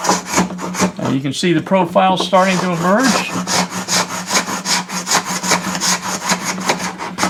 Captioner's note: wood continues to be scraped